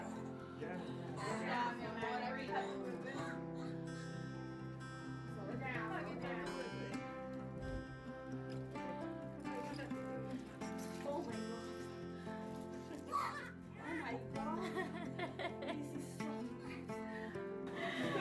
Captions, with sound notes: - Slow down, slow down - Oh, my god. Oh, my god. (laughing)